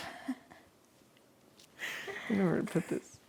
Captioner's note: laughing